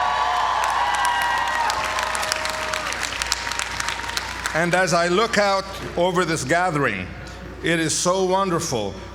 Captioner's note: applause